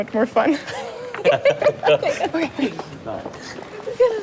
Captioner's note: all laughing